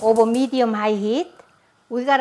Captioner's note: stove pilot clicking